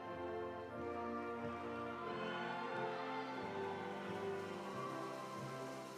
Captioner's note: audience applauding; audience cheering